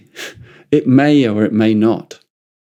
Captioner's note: chuckles